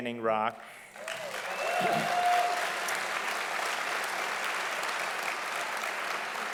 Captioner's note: audience applauding loudly